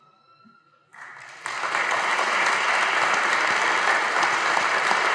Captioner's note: audience applauding